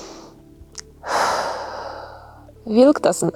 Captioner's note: breathes deeply